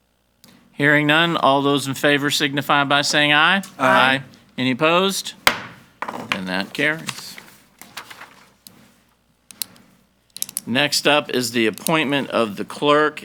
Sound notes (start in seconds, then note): 5.4 gavel banging